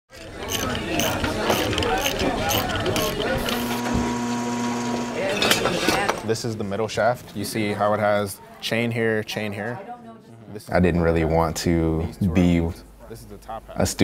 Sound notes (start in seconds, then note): 3.3 mechanical noises